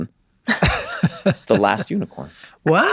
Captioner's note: Charlie laughs